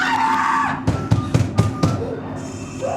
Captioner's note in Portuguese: Esmurrando a porta